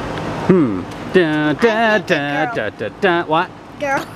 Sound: humming jeopardy tune

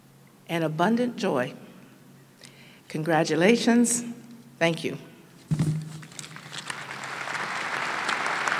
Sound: applause

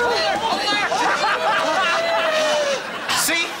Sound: laughing

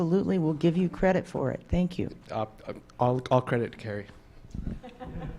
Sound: laughter

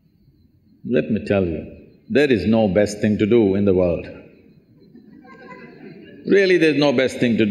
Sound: laughter

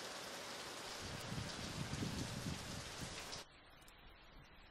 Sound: soft thunder

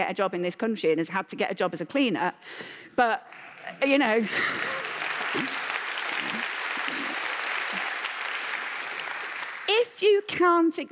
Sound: applause

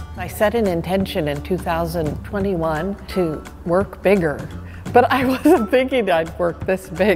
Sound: laughter

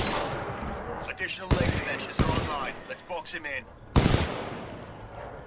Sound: radio

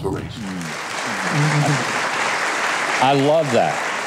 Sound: audience applauds

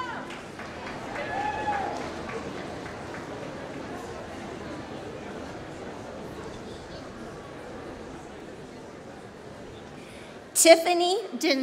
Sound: applause

